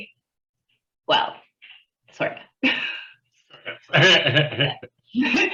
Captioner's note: laughs